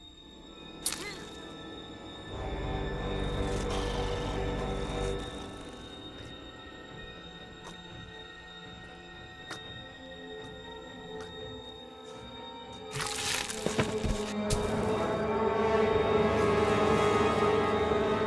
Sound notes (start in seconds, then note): 0.9 grunting; 2.3 suspenseful music; 3.0 growling; 9.3 gurgling; 14.0 suspenseful music